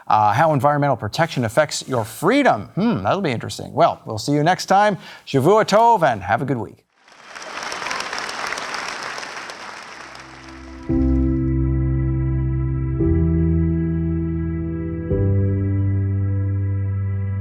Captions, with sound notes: how environmental protection affects your freedom. Hmm, that'll be interesting. Well, we'll see you next time. Shavua tov and have a good week. (audience applauding) (contemplative instrumental music)